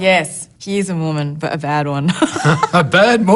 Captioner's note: laughs